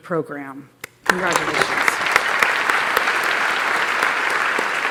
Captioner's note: applause